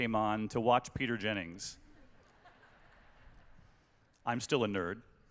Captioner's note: laughter